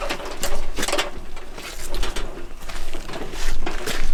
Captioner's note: metal clanking